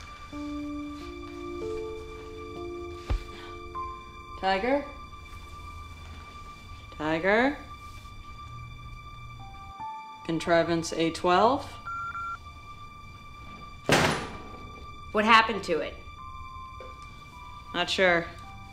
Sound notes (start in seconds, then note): 11.8 beeps; 13.9 thud